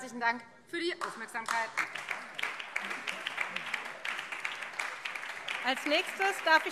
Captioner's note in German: Beifall Freie Demokraten und BÜNDNIS 90/DIE GRÜNEN